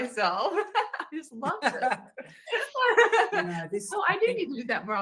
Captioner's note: laughs